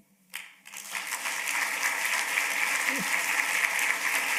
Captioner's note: applause